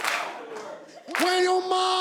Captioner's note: cheers and applause